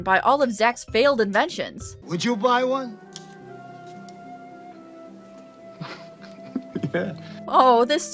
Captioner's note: giggles